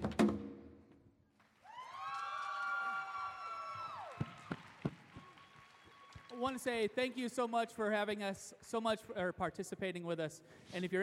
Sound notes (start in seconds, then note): 0.0 beating drums; 1.4 cheering, applause